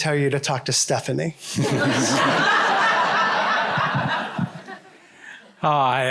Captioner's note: laughter